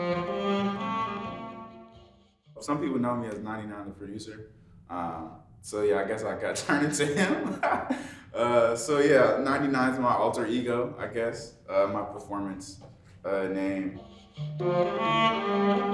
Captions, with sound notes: (cello music) Some people know me as 99 The Producer. So yeah, I guess I got turned into him. (laughs) So yeah, 99 is my alter ego, I guess my performance name.